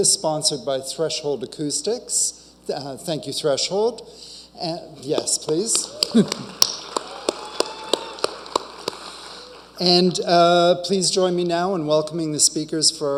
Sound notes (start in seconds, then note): 5.4 audience applauding